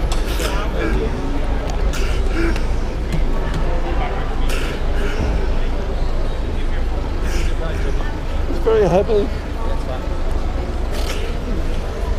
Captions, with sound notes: (sobs) It's very heavy.